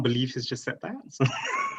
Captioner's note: laughs